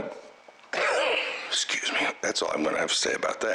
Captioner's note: coughs